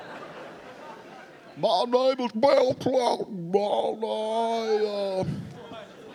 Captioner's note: speaking gibberish